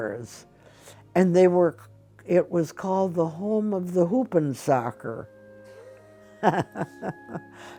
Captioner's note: laughs